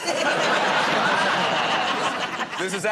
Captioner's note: laughter